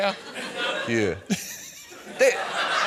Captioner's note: laughs